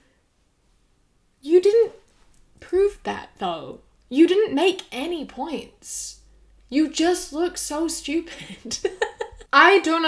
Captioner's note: laughs